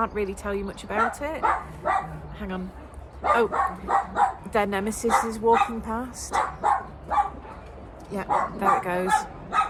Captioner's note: dog barking